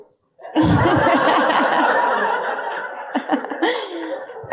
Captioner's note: audience laughing